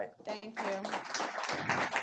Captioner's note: audience applauds